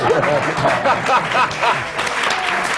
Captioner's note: laughter; applause